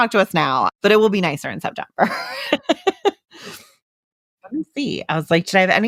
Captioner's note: laughs